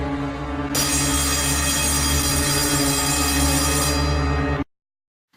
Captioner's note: bell rings